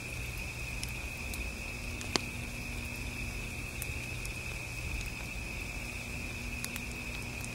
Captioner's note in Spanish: ruidos de chispas